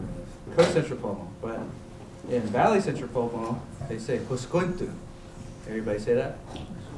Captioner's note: non-english